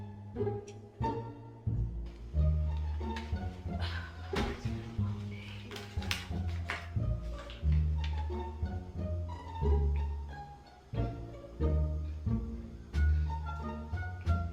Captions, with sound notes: (Blue sighing) - It's been a long day.